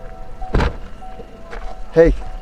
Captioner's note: car door banging